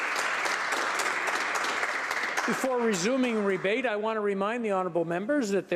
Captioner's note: applause